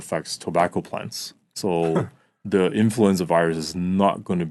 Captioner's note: chuckles